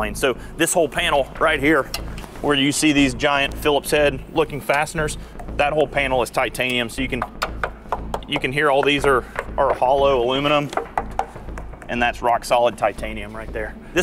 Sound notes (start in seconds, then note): 7.1 knocking